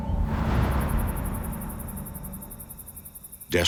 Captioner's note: insects chirping